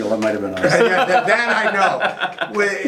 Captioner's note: laughing